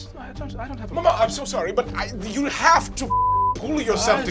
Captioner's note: beep